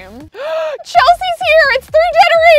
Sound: gasps

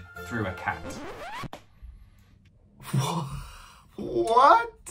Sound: record scratch

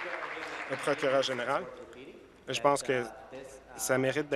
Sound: applause

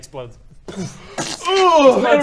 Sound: pretentious yawn

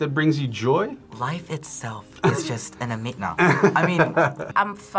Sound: laughs

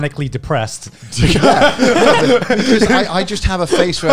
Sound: laugh

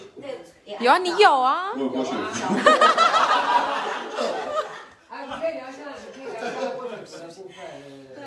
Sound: everyone laughs

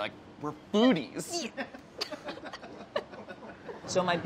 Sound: laughs

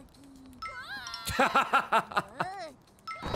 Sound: laughs

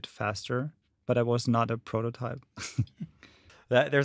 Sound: giggles

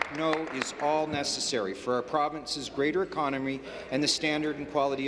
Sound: applause

